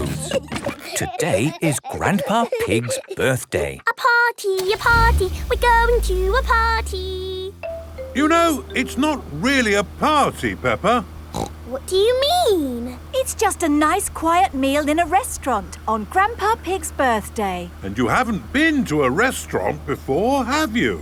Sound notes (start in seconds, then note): 0.0 giggling; 3.7 sing song voice